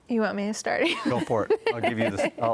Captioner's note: laughs